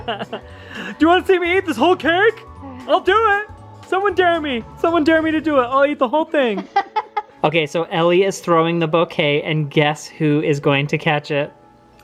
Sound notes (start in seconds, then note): 0.0 laughs; 6.5 laughs